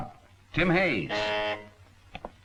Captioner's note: buzzer